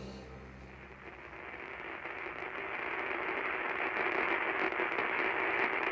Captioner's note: television crackling